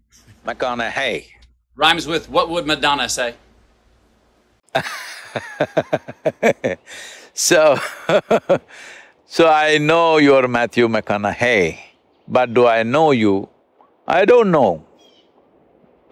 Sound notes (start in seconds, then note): 4.7 Sadhguru laughs